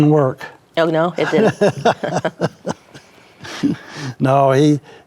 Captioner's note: laughs